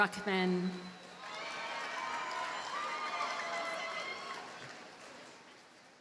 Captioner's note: audience cheers and applauds